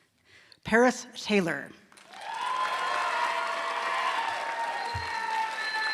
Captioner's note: applause